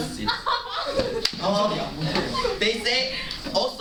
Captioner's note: laughter